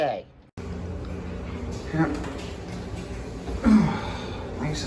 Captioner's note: dryer runs in the background